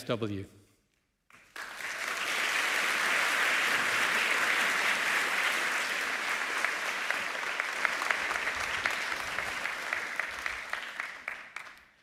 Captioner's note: applause